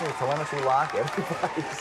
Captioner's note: crowd cheering